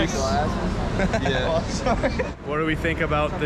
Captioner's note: laughs